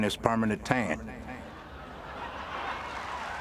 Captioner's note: laughter